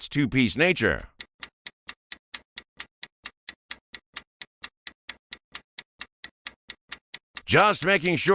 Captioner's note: sound of stopwatch ticking